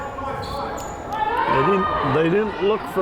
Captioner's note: crowd chattering and yelling